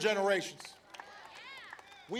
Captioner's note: applause